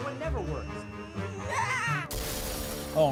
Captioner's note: Annoying Orange screams